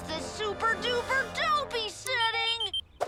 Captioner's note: device beeping; spooky voice